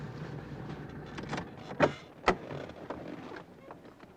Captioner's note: car door opens